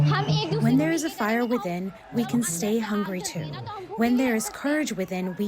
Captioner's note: through translator